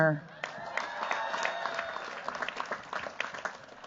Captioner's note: cheers, applause